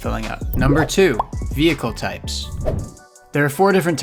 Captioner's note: air whooshing